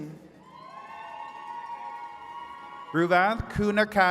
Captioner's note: attendees cheering